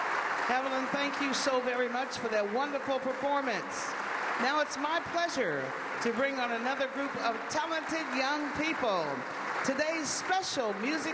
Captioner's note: applause